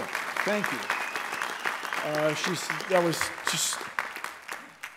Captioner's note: applause